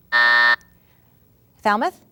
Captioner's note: buzz